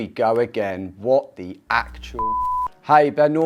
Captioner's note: beep